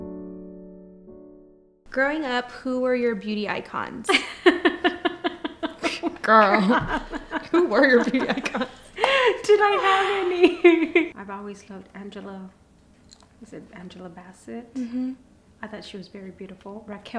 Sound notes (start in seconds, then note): 4.2 laughs